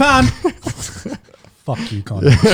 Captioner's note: laughs